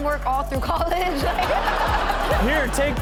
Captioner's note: Chanel and audience laughing